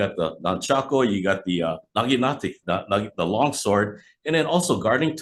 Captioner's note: speaking in foreign language